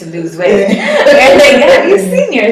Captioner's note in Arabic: ضحكات